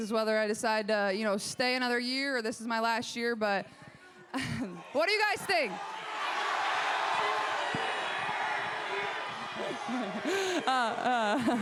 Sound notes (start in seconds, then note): 4.7 crowd cheers